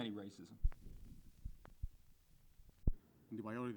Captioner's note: silence